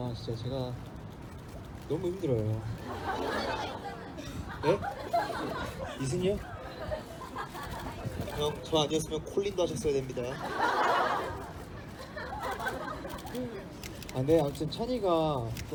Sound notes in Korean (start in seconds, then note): 8.6 웃음